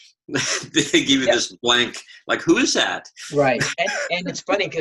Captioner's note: laughs